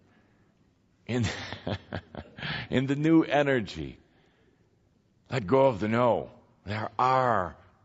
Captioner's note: Kuthumi chuckles